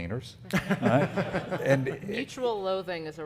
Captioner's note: audience laughing